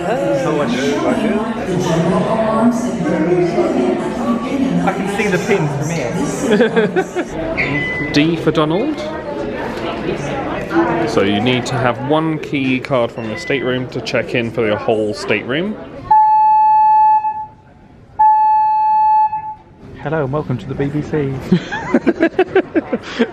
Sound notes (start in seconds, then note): 1.6 cast member chattering; 6.5 laughs; 16.0 alarm bell rings; 21.5 laughs